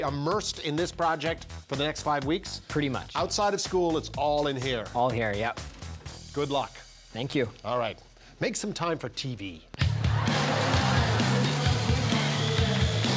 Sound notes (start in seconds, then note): 9.4 laughter